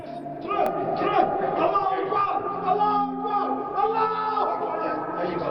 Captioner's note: shouting